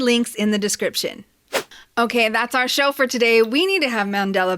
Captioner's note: whoosh